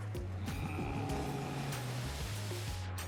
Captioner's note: growling